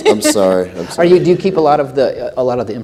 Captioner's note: laughter